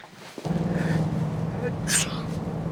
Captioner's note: Dominguez sneezing